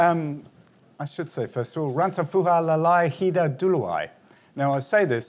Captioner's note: non-english speech